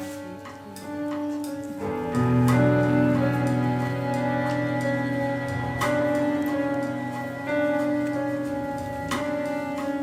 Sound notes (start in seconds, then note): 0.9 bags rustle; 5.2 intense music continues